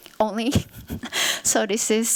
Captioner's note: chuckles